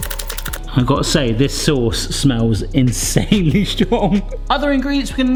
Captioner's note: laughs